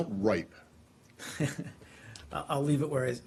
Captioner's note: laughter